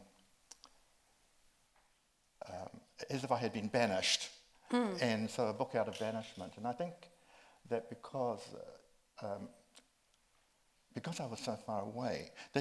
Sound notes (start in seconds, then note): none